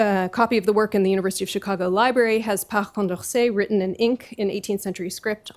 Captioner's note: french